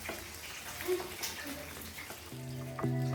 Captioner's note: sizzling